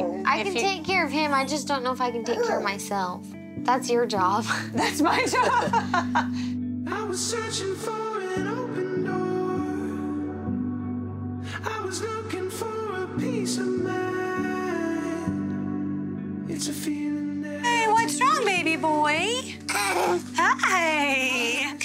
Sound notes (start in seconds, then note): 4.8 chuckles; 19.9 chuckles